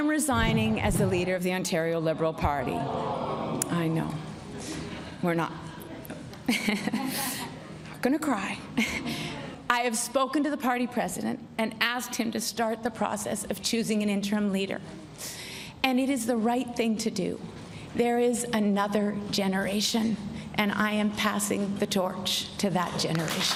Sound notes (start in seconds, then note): 9.9 chuckles